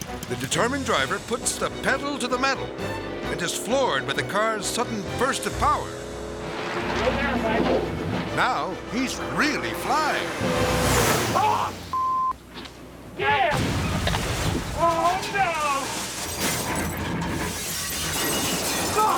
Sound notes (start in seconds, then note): 13.4 car crashing; 16.8 glass shattering